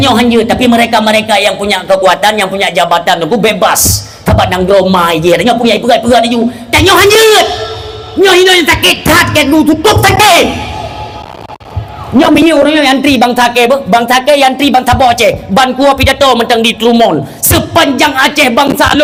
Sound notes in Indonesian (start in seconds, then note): 7.2 berteriak